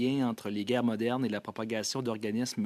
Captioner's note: speaking French